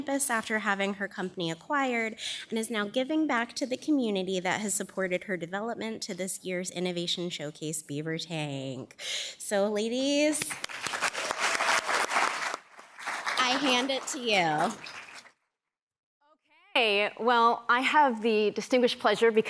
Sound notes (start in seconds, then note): 10.4 applause